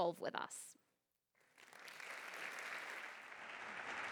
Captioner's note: applause